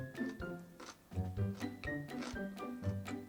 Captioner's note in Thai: เสียงฟันเคี้ยวโดนผักกรอบๆ